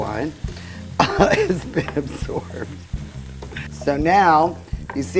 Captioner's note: laughing